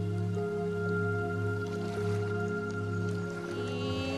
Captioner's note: sound of water lapping gently